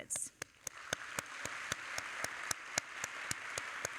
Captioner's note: all applauding